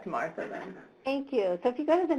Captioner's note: voiceover